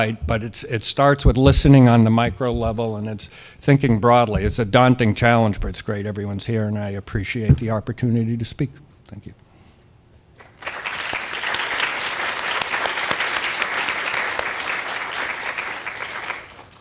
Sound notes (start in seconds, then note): 10.3 applause